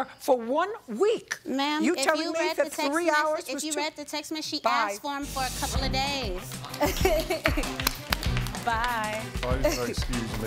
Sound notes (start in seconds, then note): 6.6 applause; 6.7 laughs